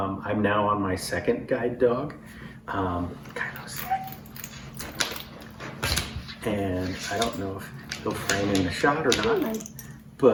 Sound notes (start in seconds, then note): 3.4 whispers